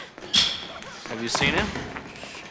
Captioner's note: sighs